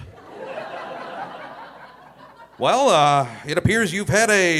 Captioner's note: audience laughing